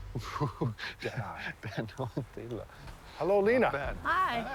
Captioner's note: chuckling, speaking softly